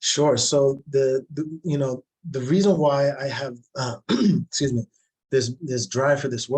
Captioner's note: coughs